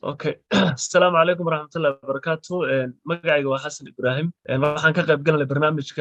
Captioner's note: speaking in foreign language